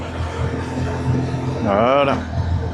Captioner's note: engine